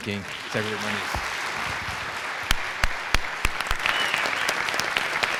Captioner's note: applause